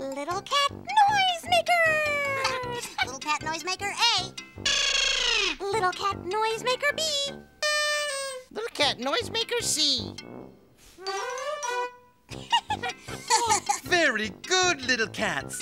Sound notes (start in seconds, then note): 7.6 horn blows